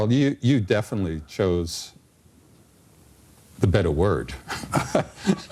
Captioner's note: laughter